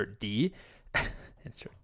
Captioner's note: chuckling